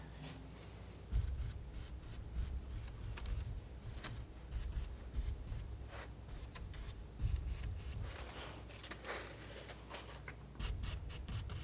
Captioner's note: scratching